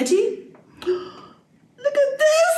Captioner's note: gasp